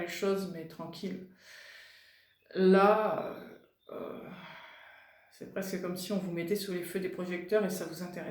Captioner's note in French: soupir